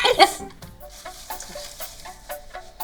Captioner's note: Lydia laughs; light upbeat music